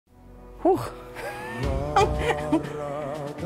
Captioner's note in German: lacht